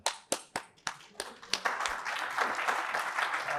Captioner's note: applause